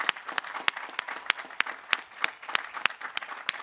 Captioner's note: applause